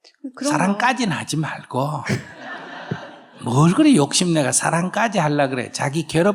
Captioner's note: questioner/Audience Laughter